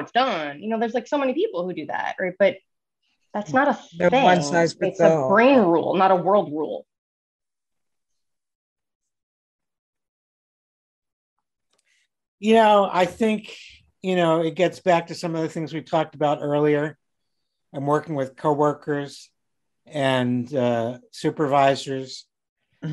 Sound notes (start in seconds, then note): 3.1 faintly speaking